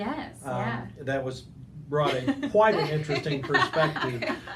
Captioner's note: laughing